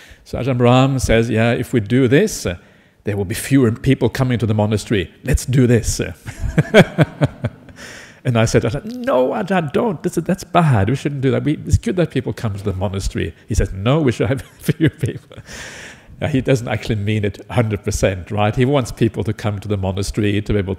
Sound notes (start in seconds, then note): 6.3 laughs